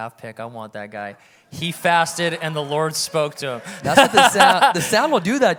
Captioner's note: laughs